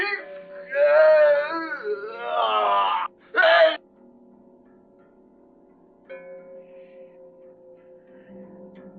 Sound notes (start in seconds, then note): 0.0 groaning